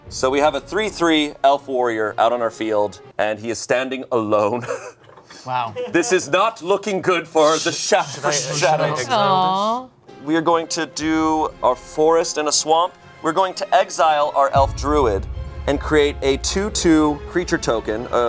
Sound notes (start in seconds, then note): 4.6 laughing